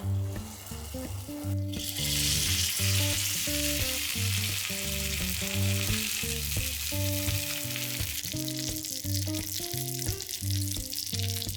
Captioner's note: frying sound